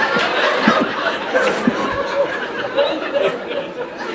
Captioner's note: laughter